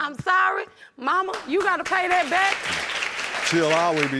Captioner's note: audience applauding